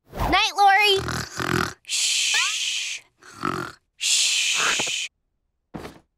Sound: snoring

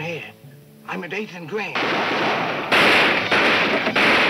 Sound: guns firing

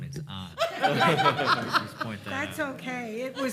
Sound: panel members laughing

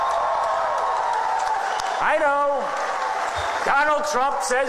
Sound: audience cheers

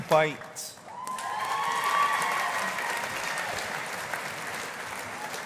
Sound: audience applauding

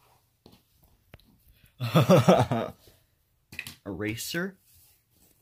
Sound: laughs

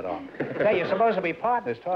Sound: laughter

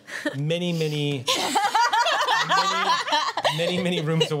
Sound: laughter

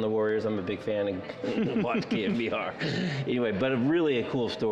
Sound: laughter

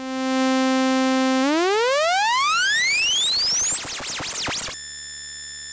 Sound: high pitch tone - rising, then falling in pitch

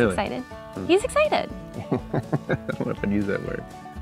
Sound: laughing

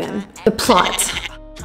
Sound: goat bleating

